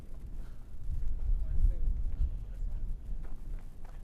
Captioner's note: gravel crunching